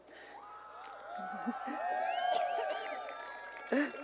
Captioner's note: cheering